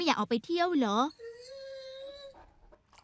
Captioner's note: dog whining